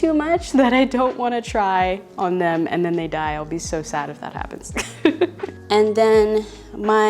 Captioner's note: laughs